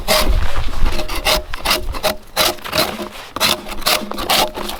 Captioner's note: drawknife scraping